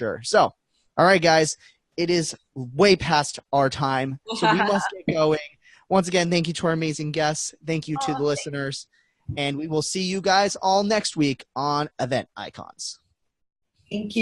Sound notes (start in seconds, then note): 4.3 laughing